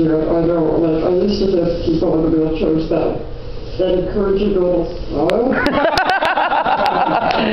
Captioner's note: laughter